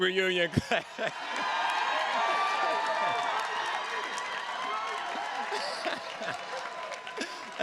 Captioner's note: attendees cheers and claps; chuckles